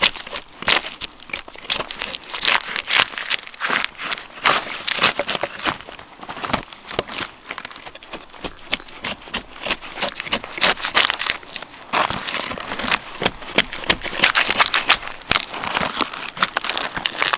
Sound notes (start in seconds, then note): 2.9 bark rustling